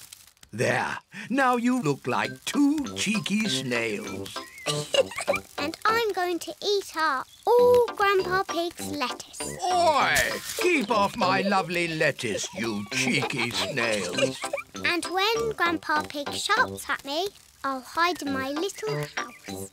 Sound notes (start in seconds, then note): 4.2 laughs